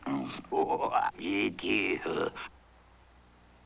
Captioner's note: gurgling, laughing